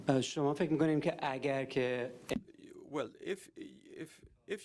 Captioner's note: continues through interpreter